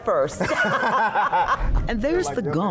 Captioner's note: laughter